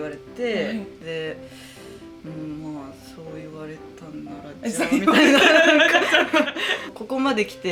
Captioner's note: laughs